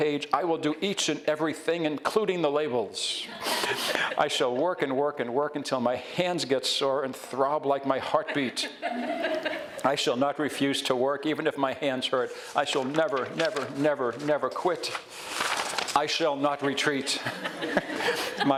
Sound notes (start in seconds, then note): 3.3 audience laughs; 8.1 audience giggles; 16.9 audience giggles